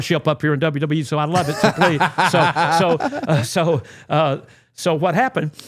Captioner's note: laughing